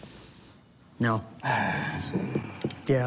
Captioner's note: sighs